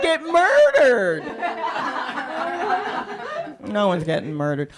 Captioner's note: laughter